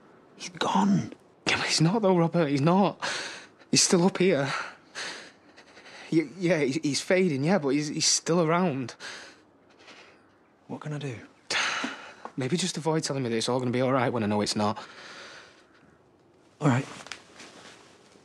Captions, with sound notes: He's gone! Yeah, but he's not though, Robert! He's not! He's still up here. Ya...yeah, he...he's fading yeah, but he's...he's still around. What can I do? *Aaron sighs* Maybe just avoid telling me that it's all goinna be all right when I know it's not. All right.